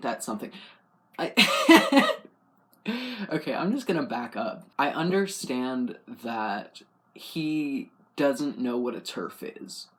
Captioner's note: laugh